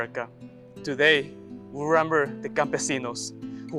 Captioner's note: speaks Spanish